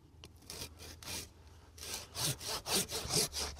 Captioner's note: sawing